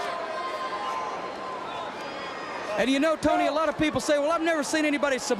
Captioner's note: crowd cheering